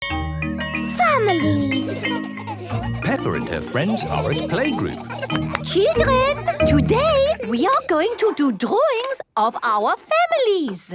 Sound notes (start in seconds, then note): 0.6 school bell ringing; 5.3 clapping